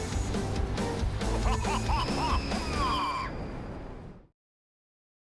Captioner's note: theme music; spooky laughter, scream